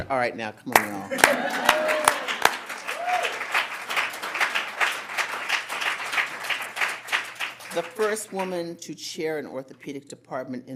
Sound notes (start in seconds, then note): 0.7 audience clapping